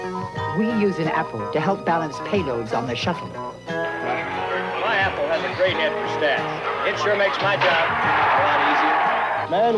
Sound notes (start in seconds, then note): 4.0 stadium noise; 6.7 batting, crowd roars